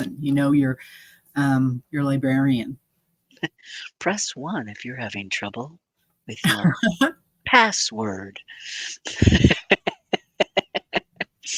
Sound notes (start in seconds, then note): 7.3 laughter drowns out conversation; 9.1 laughing